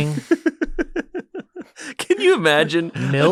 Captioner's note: laughter